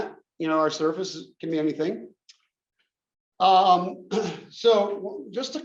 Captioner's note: cough